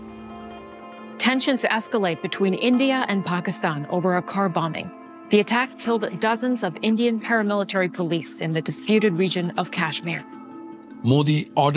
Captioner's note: dw tv news upsound